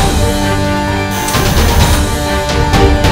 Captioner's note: Door bell